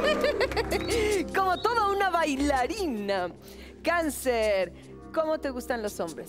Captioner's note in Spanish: Exclamaciones